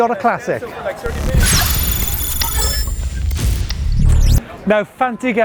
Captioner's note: exciting electronic sounds